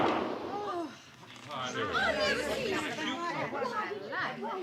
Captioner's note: gunshots; indistinct chatter